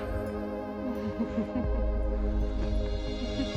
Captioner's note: laughing